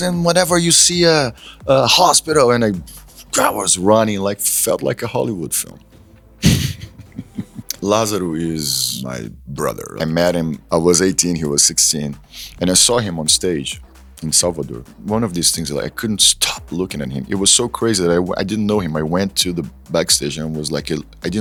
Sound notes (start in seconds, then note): 6.4 laughs